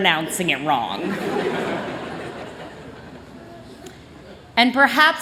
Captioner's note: chuckling